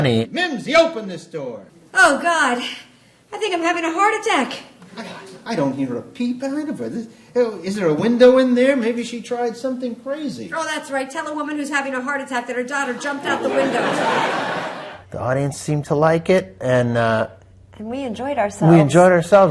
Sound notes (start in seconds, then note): 6.4 stammering; 12.8 audience laughing